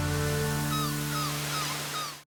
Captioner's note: humming music; waves rustling; gulls squawking